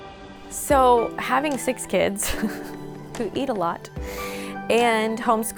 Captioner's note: laughs